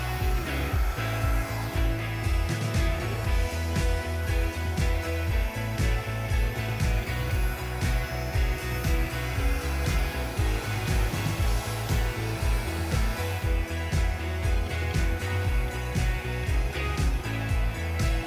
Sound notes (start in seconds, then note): 1.6 soft guitar music continues; 7.6 blow dryer blowing; 14.2 soft guitar music continues